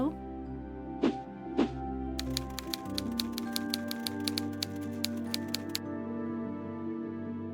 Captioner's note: gentle music; typewriter clacking